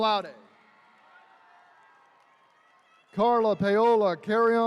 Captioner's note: attendees cheering